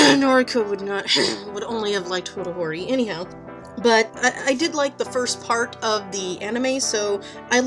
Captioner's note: coughs; fake coughs